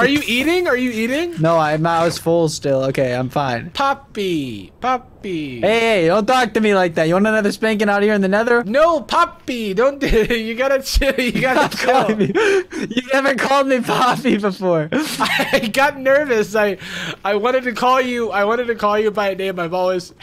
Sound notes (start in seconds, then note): 9.8 laughs